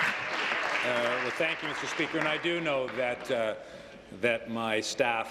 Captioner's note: applause